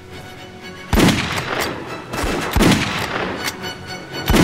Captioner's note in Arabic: طلقات نارية